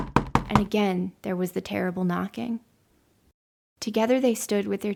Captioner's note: knocking